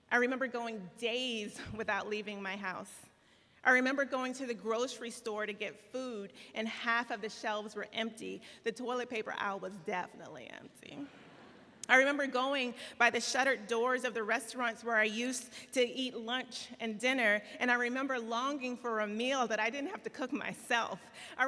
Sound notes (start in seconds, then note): 11.1 audience laughs